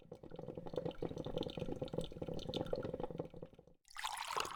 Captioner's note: coffee bubbling